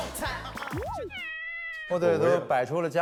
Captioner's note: meow